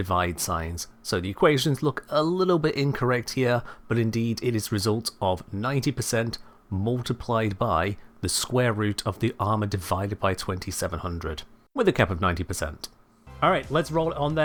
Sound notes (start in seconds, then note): none